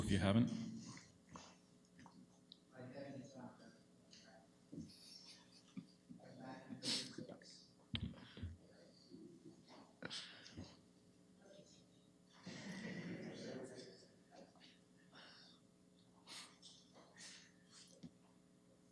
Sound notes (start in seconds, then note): 6.5 background chatter